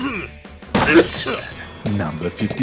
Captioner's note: coughs